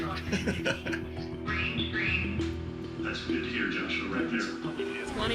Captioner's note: chuckles; chatter on computer